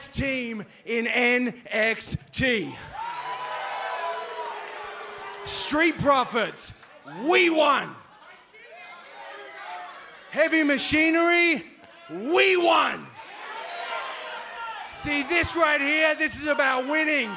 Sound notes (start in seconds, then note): 2.1 crowd cheering